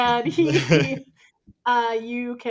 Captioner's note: chuckle